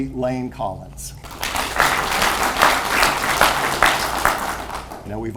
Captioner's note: audience applauds